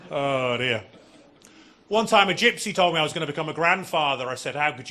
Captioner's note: audience laughing